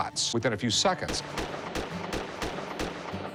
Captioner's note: gunshot sounds